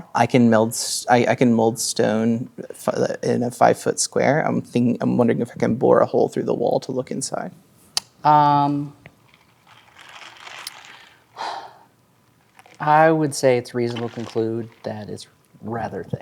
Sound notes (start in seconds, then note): 9.0 ice cubes rattling